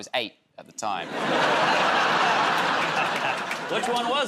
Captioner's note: laughter